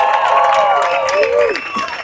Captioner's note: cheers and applause